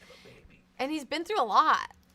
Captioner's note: whispers